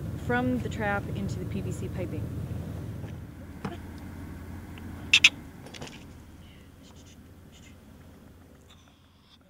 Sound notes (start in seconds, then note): 4.7 ferret chirping